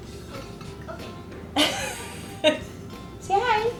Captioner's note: laughs